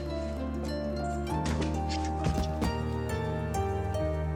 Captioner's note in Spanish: ruido al patear algo